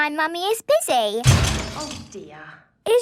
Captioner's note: crash!